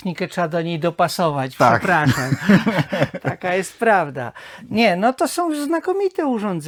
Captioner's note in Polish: śmiech